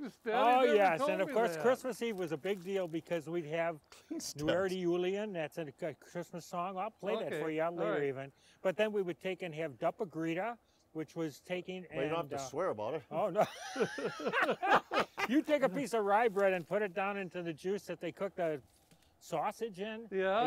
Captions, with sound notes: you never told me that. Oh yes, and of course Christmas Eve was a big deal because we'd have a Christmas song, I'll play that for you later, even, but then we would take Dopp i Gryta, which was taking... - Well, you don't have to swear about it. - Oh no. (laughing) - You take a piece of rye bread and put it down into the juice that they cook the sausage in. - Yeah?